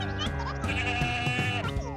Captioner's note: bleating; high-pitched squeaking